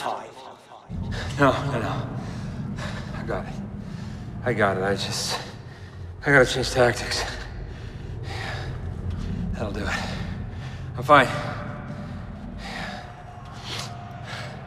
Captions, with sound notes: No. No, no. [panting] I got it. I got it. I just... I gotta change tactics. [panting] I'll do it. I'm fine. [panting and sniffling]